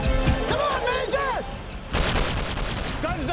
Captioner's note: gunshot